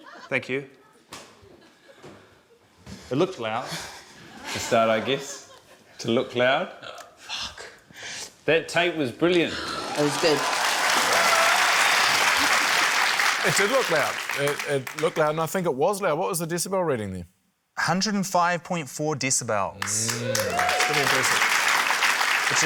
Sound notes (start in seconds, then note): 4.0 chuckles; 9.6 cheering, applause; 19.8 applause